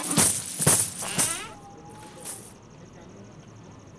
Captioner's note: Door opens